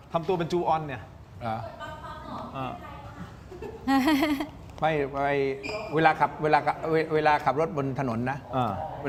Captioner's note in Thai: เสียงหัวเราะ